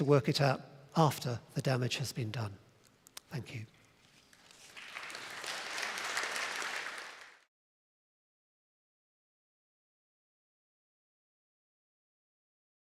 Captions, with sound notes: work it out after the damage has been done. Thank you. [APPLAUSE]